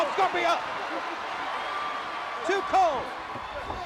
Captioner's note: crowd cheering